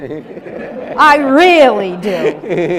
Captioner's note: audience laughs